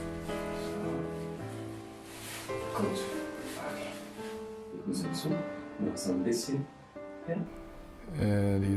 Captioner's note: therapist speaking in German